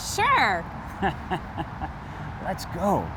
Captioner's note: laughs